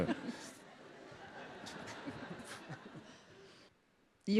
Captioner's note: audience laughs